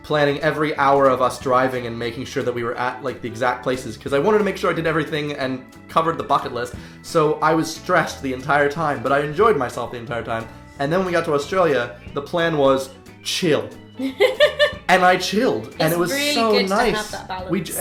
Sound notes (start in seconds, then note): 14.0 laughing